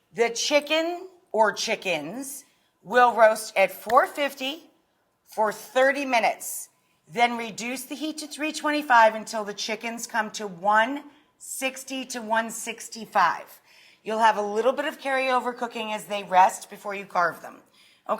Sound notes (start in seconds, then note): none